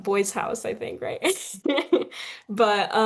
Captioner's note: chuckles